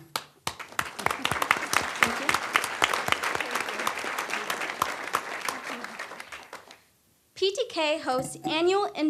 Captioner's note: applause